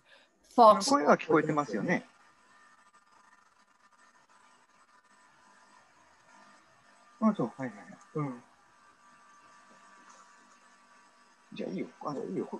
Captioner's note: speaks Japanese